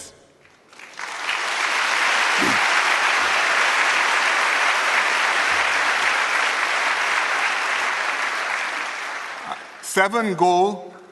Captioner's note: applause